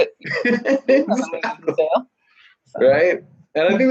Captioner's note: laughing